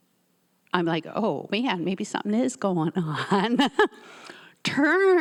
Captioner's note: laughs